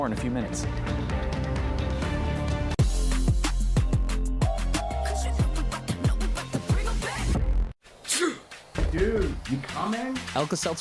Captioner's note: coughing, sneezing; door knocking